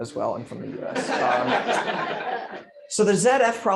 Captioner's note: laughter